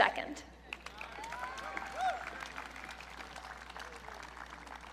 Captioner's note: audience cheering